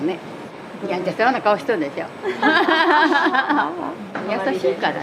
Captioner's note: laughs